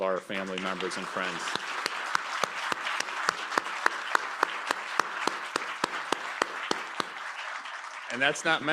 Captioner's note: applause